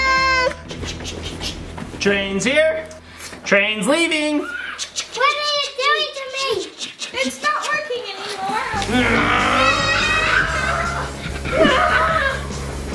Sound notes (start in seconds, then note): 4.4 choo choo sounds; 9.1 making choo choo noises; 10.3 yelling